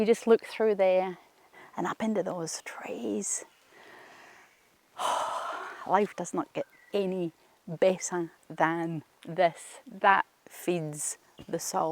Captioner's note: sighs